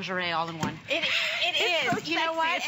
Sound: laughter

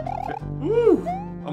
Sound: whoooo

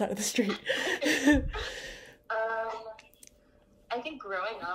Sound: laughing

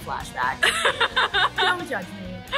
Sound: laughs

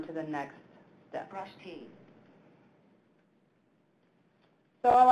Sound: electronic Voice

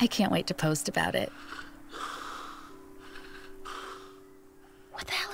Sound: loud breathing

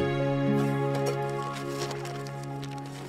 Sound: clinking

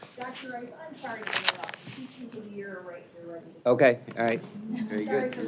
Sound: indistinct chatter

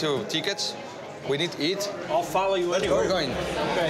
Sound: none

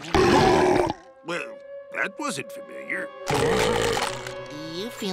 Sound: burping; burping

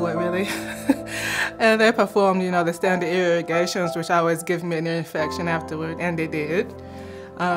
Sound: haHa - laughter

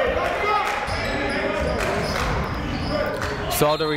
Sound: clapping

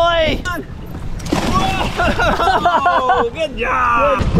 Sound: water splashing

